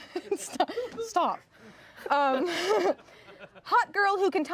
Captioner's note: laughs